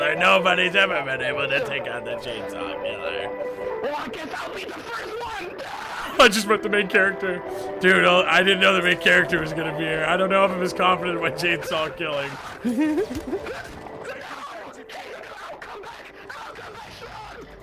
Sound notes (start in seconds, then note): 3.8 yells; 12.0 main character yells; 12.3 laughs